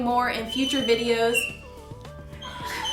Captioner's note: squeaking